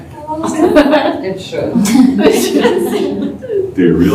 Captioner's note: laughter